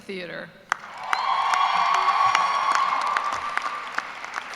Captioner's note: cheers and applause